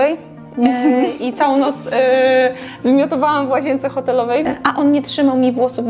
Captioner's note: laughs